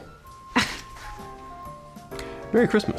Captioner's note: scoffs